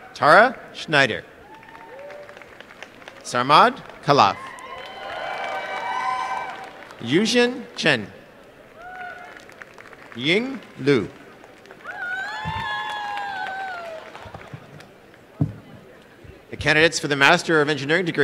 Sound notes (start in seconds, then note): 8.8 applause; 11.2 applause and cheering